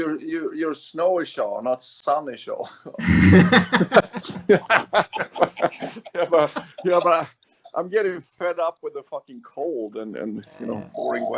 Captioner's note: laughs